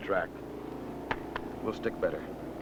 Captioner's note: skin smacking